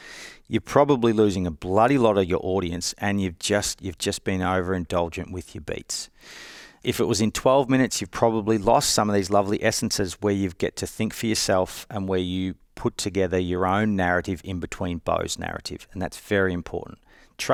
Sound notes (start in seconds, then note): none